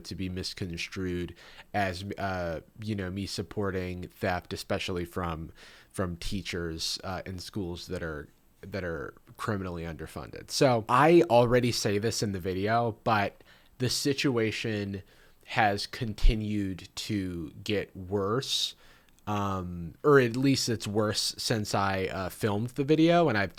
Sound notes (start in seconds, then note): none